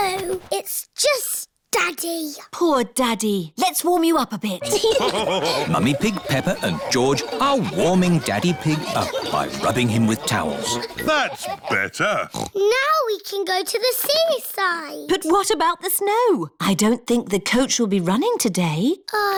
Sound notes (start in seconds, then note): 5.0 laughter; 12.2 oinks